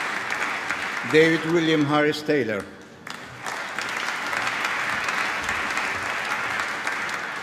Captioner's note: applause